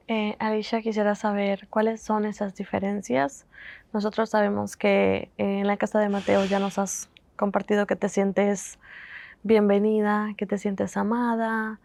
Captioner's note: Spanish